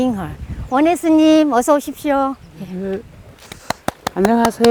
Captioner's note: speaking foreign language; clapping